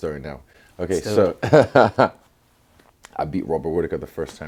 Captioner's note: laugh